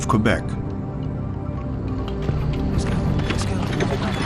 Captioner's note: equipment rattles